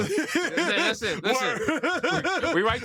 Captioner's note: laughter